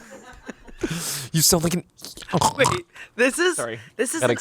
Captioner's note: oinks